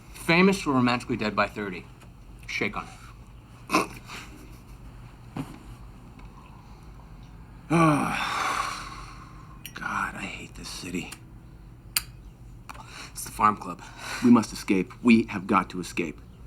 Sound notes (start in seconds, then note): 3.5 laughs; 7.6 sighs